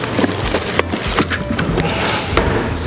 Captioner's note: foil crinkling; soothing music